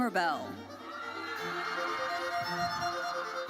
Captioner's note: audience cheering; bright lively music continues